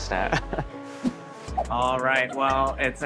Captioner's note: chuckles